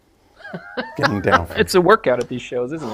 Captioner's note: laughs